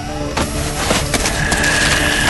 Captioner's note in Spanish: sonido de alarma; Dominic exhala